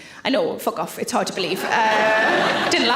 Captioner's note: audience laughing